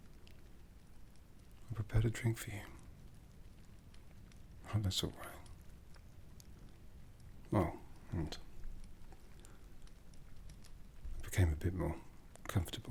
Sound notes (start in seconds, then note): none